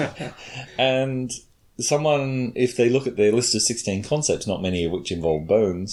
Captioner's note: chuckles